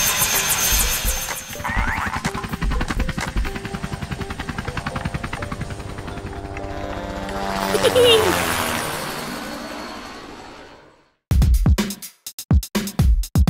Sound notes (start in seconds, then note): 1.4 propellers spin; 7.6 Dr. McTinker laughs